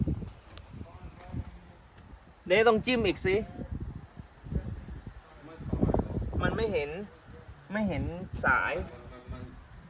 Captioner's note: speaking foreign language